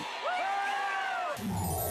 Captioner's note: audience cheering